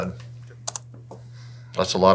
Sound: computer mouse clicks

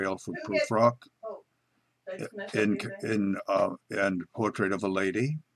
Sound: lady yelling in background

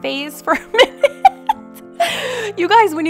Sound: laughs

